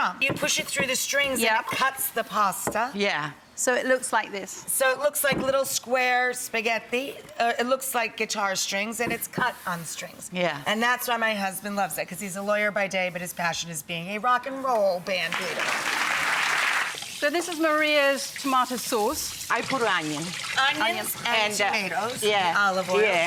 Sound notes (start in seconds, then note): 15.3 audience claps